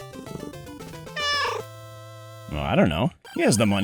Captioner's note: meow